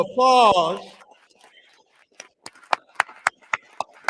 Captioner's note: applause